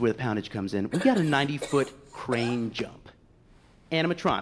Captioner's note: coughing